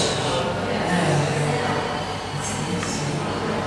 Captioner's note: museum sounds